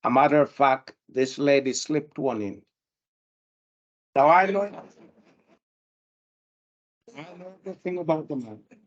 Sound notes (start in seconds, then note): 4.5 panel and audience laugh